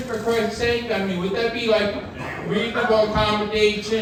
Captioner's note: audience laughing